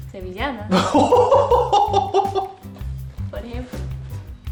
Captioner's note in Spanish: Risas